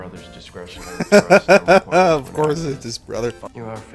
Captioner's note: laughter